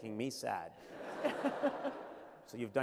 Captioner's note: laughter